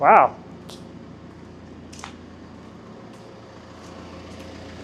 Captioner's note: telehandler whirring